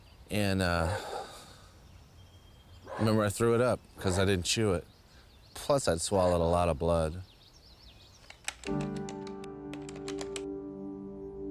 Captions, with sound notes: And remember, I threw it up because I didn't chew it. Plus, I'd swallowed a lot of blood. [keypad beeping]